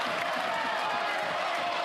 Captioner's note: applause